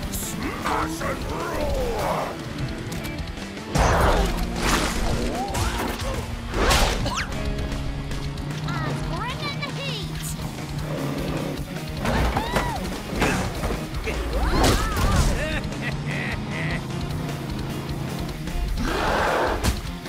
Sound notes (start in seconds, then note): 6.3 jaws snapping; 14.9 laughing; 18.7 roaring